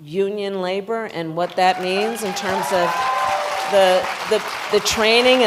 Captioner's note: applause